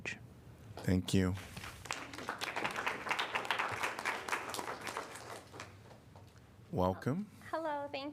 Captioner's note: applause